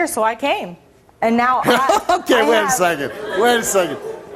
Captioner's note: laughs